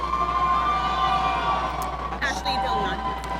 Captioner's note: audience cheering